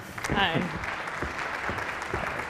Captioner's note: applause